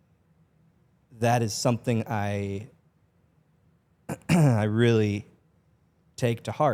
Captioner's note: clears throat